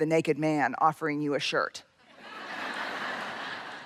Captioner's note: laughter